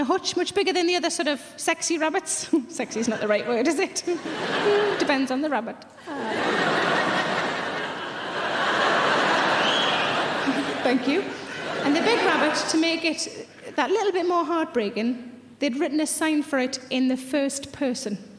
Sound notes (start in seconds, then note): 6.0 audience laughing; 9.2 audience member whistles